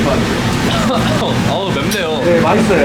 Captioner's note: coughing